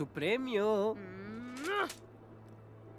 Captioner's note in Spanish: gruñe